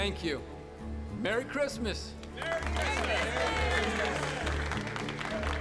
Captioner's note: all applauding, calling out